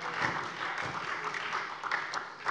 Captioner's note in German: Beifall SPD